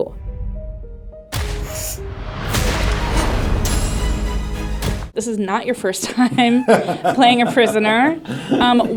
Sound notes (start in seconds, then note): 0.0 soft, dramatic music; 0.1 booming sounds; 6.1 actors laughing